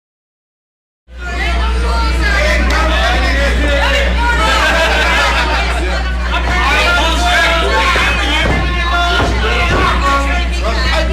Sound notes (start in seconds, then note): 1.1 audience chattering indistinctly